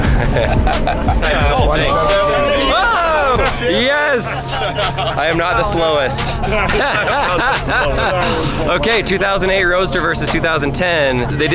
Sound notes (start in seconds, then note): 0.0 laughter; 3.0 cheering; 6.6 laughs